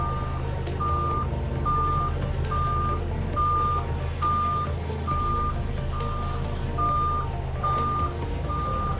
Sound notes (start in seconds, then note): 1.6 lift alarm beeps; 4.4 upbeat music